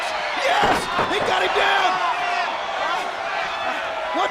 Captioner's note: wrestlers thudding on ring; crowd cheering